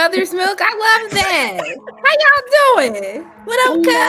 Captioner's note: laughing